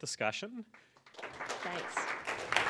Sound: applause

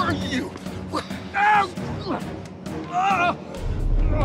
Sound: screams

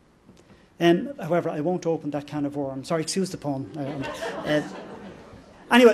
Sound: laughter

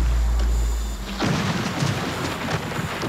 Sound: thunder clash

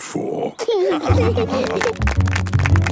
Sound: laughing; clapping

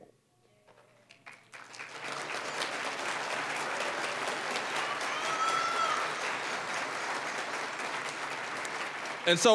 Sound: applause

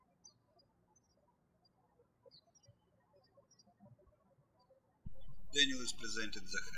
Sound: birds chirping

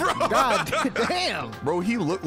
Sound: laughing

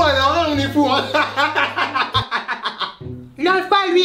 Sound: forced laughter

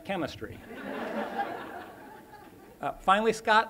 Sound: laughter

